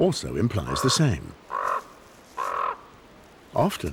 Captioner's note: bird cawing